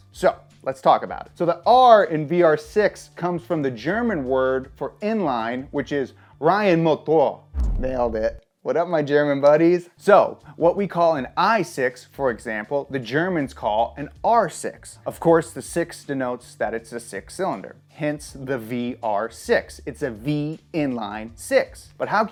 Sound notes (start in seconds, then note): 6.0 speaking in foreign language